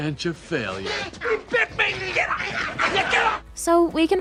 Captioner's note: shouting